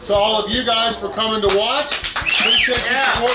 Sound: crowd cheering

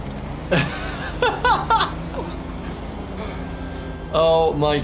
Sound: laughing

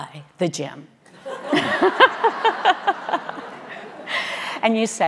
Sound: audience laughing

